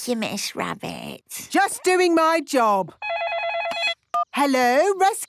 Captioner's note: phone ringing